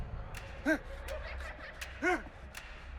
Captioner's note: dramatic music; children giggling; man gasps